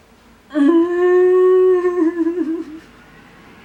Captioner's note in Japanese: 号泣